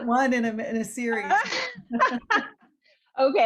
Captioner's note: laughs